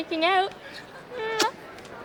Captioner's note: kissing sounds